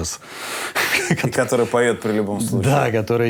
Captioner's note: laughs